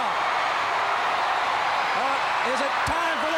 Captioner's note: crowd cheering